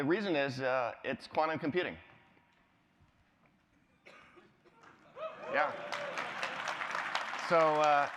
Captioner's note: applause